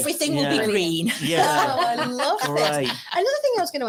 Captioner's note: laughs